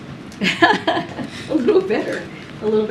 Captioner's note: laughs